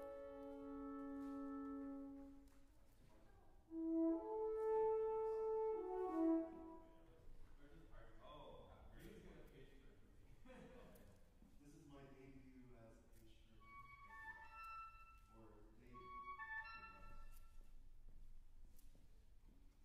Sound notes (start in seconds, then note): 3.7 instrument playing; 10.3 chuckles; 13.5 flute playing